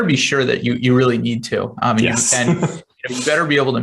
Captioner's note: laughing